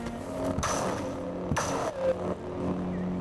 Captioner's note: lightsabers crashing